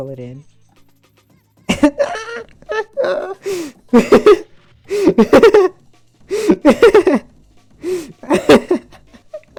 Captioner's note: laughing